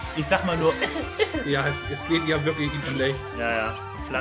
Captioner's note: cough cough